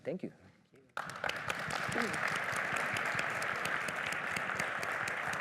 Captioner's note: applause